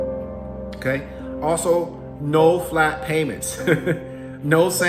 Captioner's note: chuckles